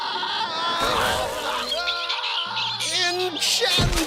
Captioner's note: screaming; chicks screeching